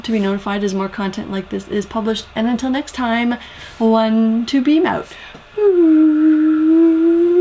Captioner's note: whooo